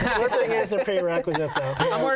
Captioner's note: laughter